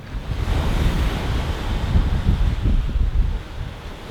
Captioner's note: ocean waves